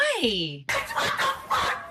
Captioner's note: laughing